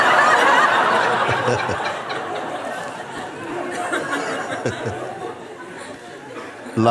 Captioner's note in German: Lachen